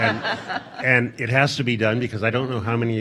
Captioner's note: audience laughing